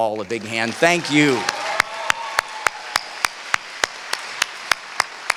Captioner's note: cheering